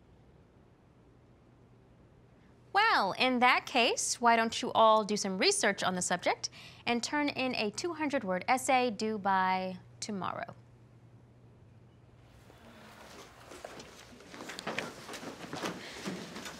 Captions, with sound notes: Well in that case why don't you all do some research on the subject and turn in a two hundred word essay due by tomorrow. [class room chatter]